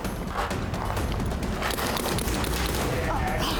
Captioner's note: gunfire